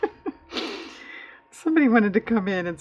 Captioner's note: laughs